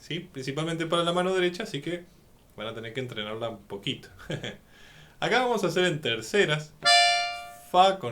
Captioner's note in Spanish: risas